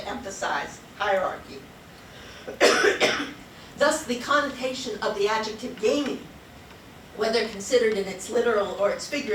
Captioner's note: coughs